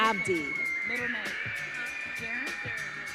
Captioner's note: audience cheering